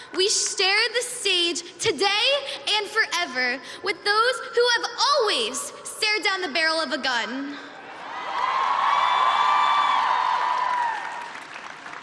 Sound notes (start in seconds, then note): 7.8 cheering